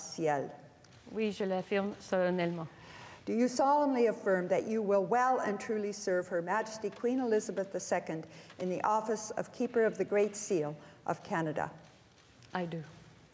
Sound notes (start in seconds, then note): 5.7 speaking French